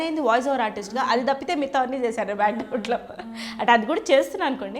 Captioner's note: laughs